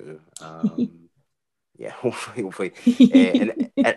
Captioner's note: chuckles